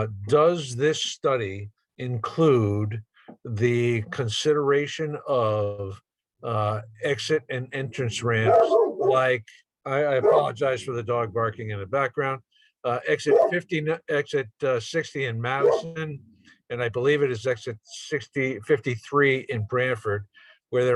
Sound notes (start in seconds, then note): 8.4 dog barking